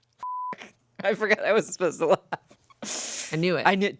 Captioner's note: laughs; beep